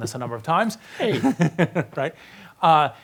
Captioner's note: laughs